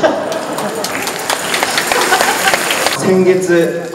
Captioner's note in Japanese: 拍手